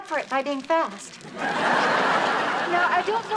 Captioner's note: audience laughs